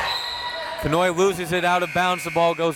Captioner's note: crowd members shouting; whistle tweeting